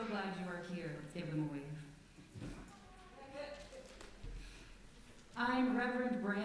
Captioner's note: enthusiastic sounds from congregation